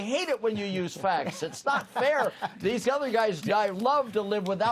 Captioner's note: laughter